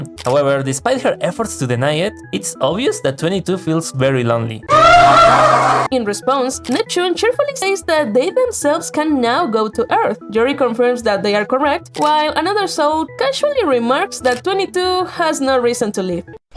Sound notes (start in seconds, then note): 4.7 cries in Spanish